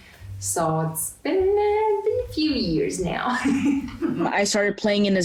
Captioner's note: laughs